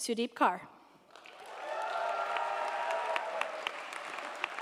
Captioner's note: crowd cheering